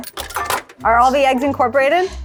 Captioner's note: coins clinking